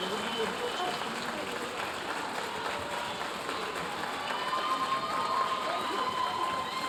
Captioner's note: audience cheering and applauding